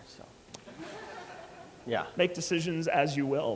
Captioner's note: laughter